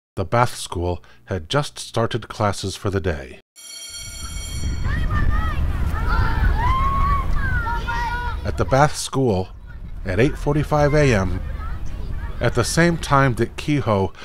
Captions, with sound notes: The Bath school had just started classes for the day. [CLASS BELL RINGS] At the Bath school at 8:45 a.m., at the same time that Kehoe